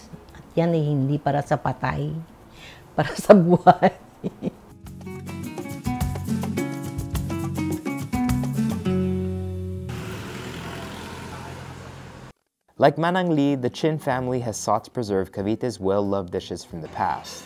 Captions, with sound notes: That is not for the deceased, but for the living. (giggles) Like Manang Ly, the Chin family has sought preserved Cavite's well-loved dishes from the past.